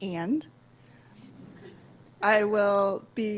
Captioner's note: laughter